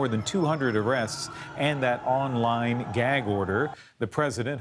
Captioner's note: yelling